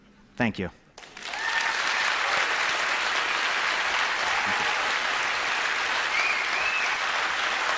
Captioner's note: applause